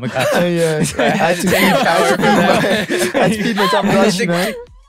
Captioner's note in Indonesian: tertawa